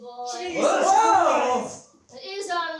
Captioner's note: all yells